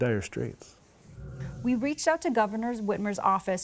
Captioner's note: screen whooshing